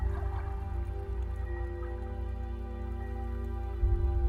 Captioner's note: calm music; water flapping